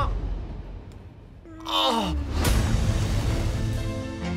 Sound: groans

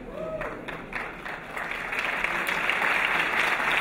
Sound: applause

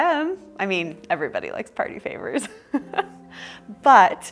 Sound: laughs

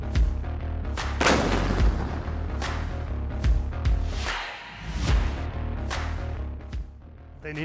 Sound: upbeat music; gun fire

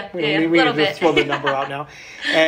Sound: laughing

